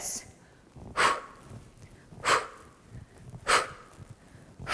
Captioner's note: exhales loudly